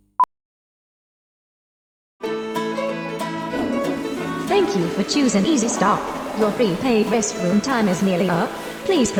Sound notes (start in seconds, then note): 2.2 country music; 3.1 toilet flushes